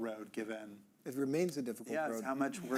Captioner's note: chuckling